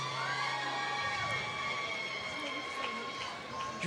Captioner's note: applause